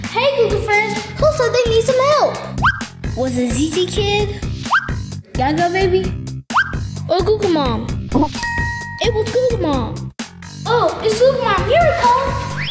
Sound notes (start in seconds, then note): 2.6 screen whistles; 4.6 screen whistles; 6.5 screen whistles; 8.1 graphics dinging